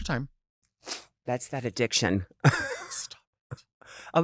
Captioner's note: chuckles